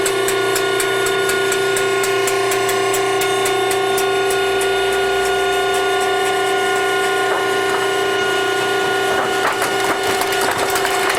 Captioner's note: sound of the scrap metal compacting machine crushing cans